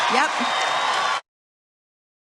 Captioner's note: applause